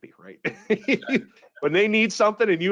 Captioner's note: laughing